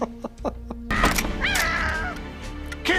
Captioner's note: chuckles; yelping in the distance